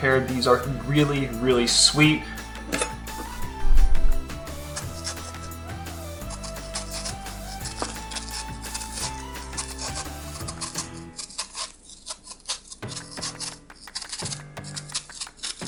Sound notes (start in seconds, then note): 2.8 bright upbeat music; 6.2 pear scratching